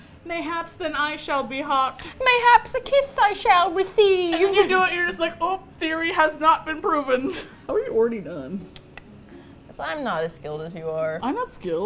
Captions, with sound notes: mayhaps then I shall be hot?" - "Mayhap's a kiss I shall receive!" - And then you do it, and you're just like, "Oh, theory has not been proven." [laughs] How are you already done? - Cause I’m not as skilled as you are. - I’m not skilled!